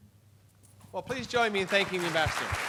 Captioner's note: applause